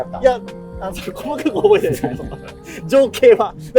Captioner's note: laughing